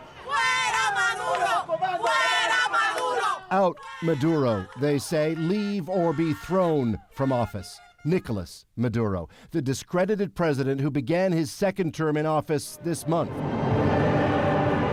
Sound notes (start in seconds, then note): 1.9 chanting